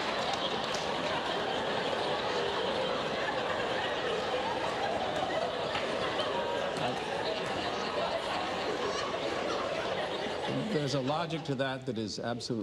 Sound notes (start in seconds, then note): 3.5 laughter